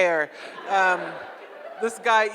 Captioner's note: audience laughs